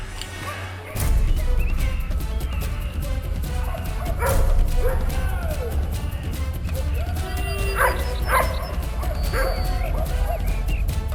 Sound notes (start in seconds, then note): 3.0 dramatic music; 3.5 dogs barking